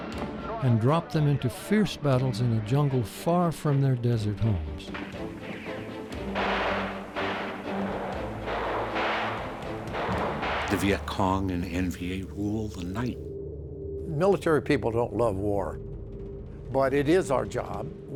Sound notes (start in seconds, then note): 6.2 gun fires